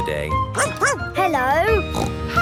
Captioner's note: barking; snorting